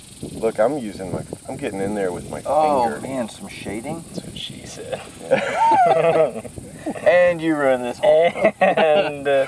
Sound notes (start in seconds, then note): 4.8 laughs